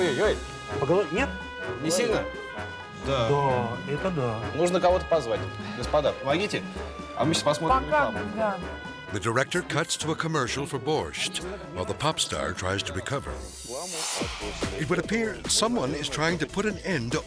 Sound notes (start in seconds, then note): 0.1 interviewer speaking Russian; 2.1 speaking Russian; 4.9 interviewer speaking Russian